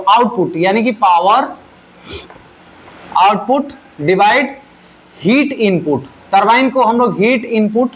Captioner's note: nasal sound